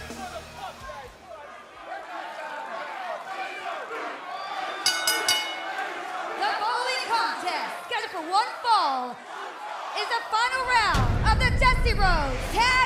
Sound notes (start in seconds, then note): 4.8 bell ringing